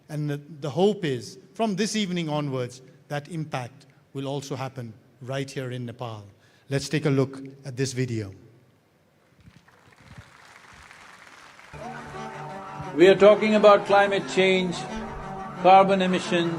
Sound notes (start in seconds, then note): 9.4 applause; 13.1 cheering/Applause